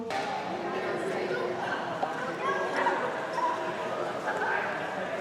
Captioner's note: attendees faintly speaking